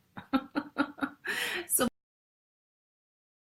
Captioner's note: laughs